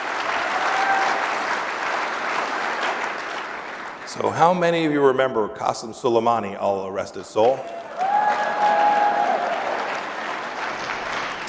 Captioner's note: applause